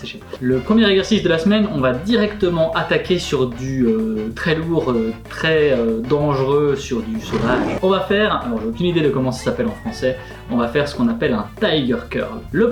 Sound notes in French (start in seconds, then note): 7.1 rugissement